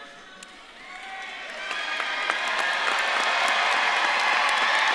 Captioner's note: audience claps and cheers